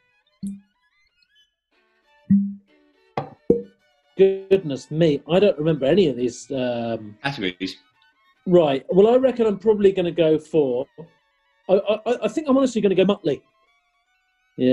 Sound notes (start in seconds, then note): 0.2 quiet, low pop; 2.3 low pop; 3.2 light pop